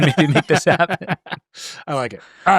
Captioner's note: laughing